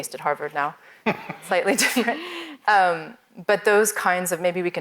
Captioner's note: both laugh